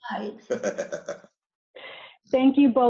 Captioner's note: laughs